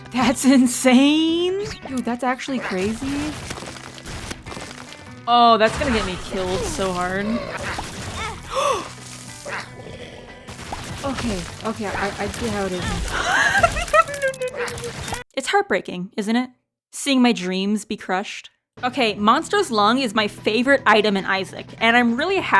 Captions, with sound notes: "That's insane?!" "Dude, that's actually crazy..." "Oh, that's gonna get me killed so hard..." [gasp] Okay, okay okay, I-I get how it is now- [wheeze] [delirious laughter] No, no, no, no... It's heartbreaking, isn't it? Seeing my dreams be crushed... Okay, Monstro's Lung is my favorite item in Isaac, and I'm really